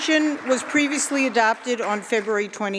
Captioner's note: applause